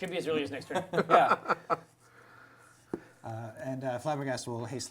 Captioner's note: laughter